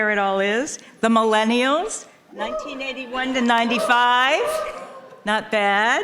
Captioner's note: people cheering